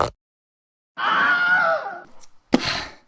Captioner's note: Wilhelm scream; exhale